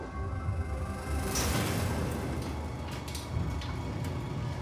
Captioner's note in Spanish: ruido al subir la puerta